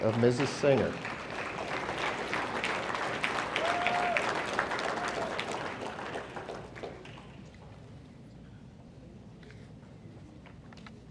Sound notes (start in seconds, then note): 0.0 audience applauding; 2.9 audience cheering